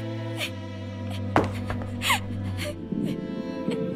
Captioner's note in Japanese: コン… コロコロ